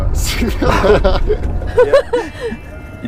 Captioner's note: laughing